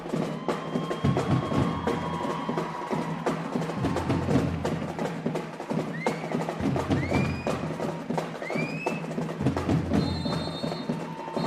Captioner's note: cheers and applause